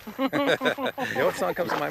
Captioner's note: both laugh